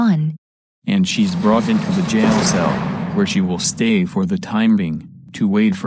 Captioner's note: cell door closing